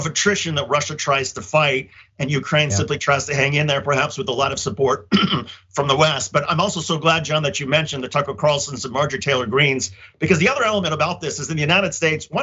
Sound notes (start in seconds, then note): 5.0 cough